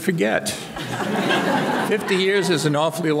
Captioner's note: audience laughing